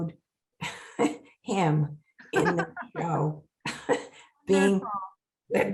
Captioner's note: laughing